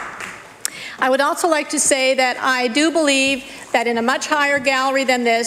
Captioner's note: applause